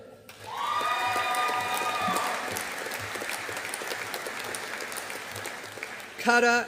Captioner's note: audience applauding